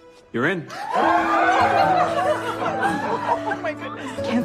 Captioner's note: cheering